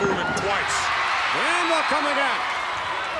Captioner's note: audience cheering